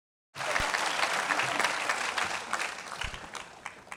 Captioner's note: audience clapping